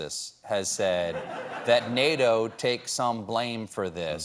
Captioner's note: laughter